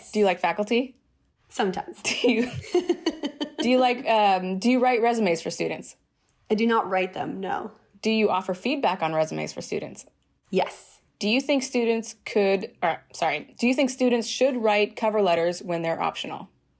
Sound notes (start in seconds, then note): 2.0 laughter